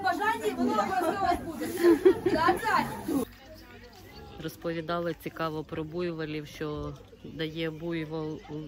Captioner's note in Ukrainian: сміх